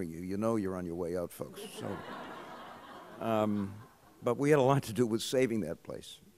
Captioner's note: laughter